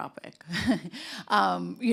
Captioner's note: chuckles